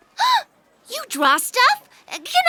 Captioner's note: gasping